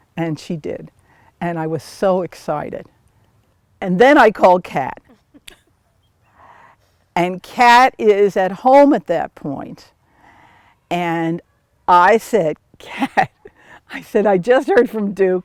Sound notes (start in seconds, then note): 5.0 laugh